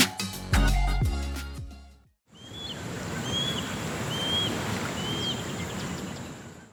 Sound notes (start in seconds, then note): 2.5 birds chirping